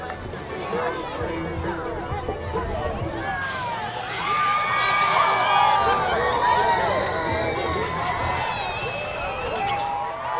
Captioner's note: applause